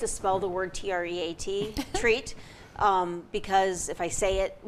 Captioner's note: laughs